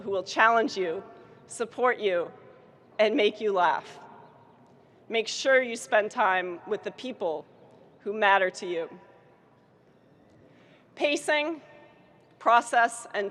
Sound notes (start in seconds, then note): none